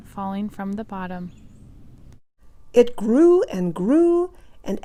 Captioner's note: none